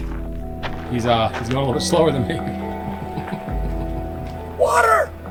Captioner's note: chuckling